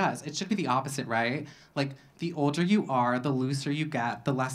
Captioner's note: none